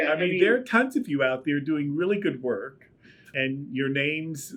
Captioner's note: laughs